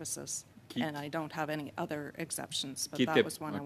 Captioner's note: speaking French